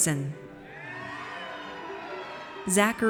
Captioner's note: audience cheers